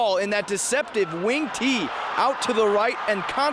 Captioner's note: cheering and applauding